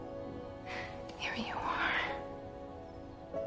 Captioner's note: whispering